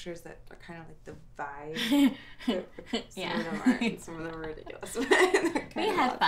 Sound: laughing

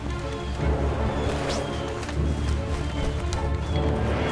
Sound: birds tweet

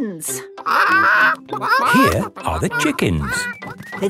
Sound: clucking

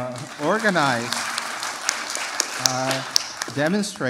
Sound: applause

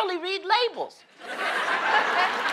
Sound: laughter; applause

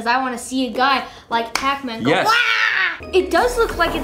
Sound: screaming

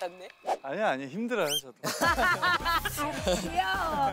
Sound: burst into laugh

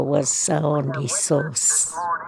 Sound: soundbite of archived recording

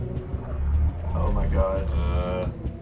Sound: groans; disturbing music

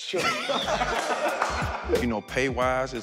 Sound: laughter

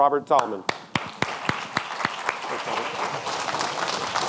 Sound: audience clapping

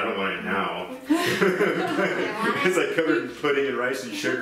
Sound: laughing

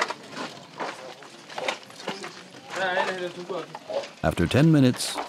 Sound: chattering

